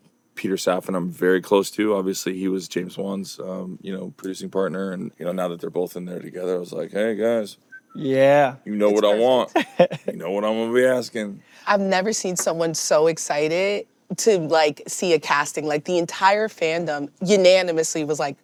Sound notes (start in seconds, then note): 8.9 chuckles